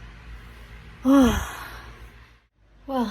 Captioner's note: breathes out heavily